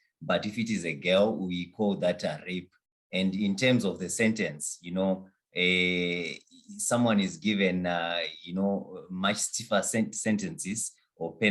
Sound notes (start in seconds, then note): none